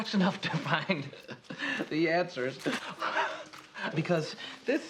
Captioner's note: kind of chuckling; laughs